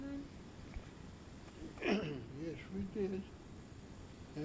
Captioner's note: clears throat